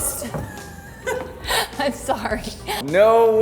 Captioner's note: laughing